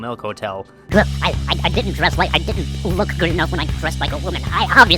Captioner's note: sped up and vibrato'd